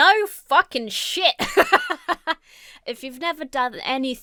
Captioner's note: laughs